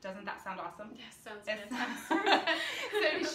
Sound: laughs

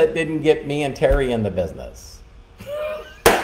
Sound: laughing

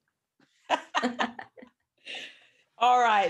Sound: they laugh

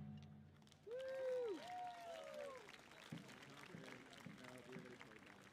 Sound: audience applauding

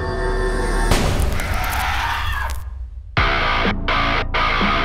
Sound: person screaming; hard rock music

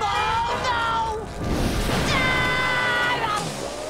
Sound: screaming

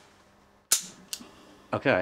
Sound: gun clicking

